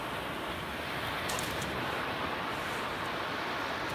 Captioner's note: crashing waves